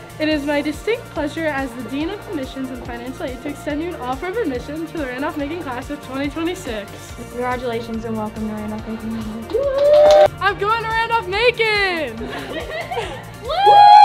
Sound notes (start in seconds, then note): 9.6 crowd cheers; 12.2 laughs